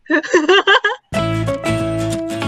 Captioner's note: laughing